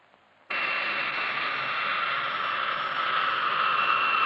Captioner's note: plane whirring